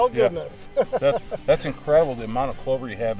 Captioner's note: laughter